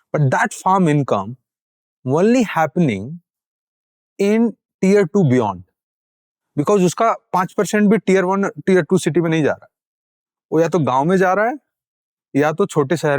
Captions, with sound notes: But that farm income is only happening in tier 2 and beyond. [speaking in Hindi]